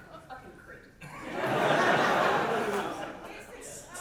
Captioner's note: audience laugher